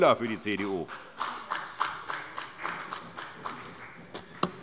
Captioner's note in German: Vereinzelter Beifall CDU